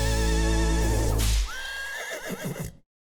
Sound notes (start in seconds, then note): 1.2 whip cracking; 1.5 horse neighing